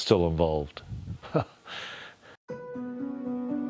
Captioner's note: chuckles; sombre music